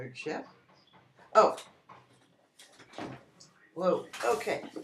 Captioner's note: Knocking